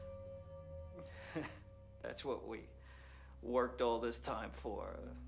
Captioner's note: laughs